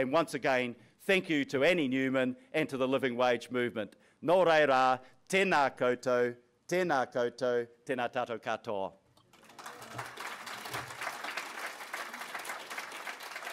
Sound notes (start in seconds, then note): 4.7 speaking foreign language; 9.3 audience applauds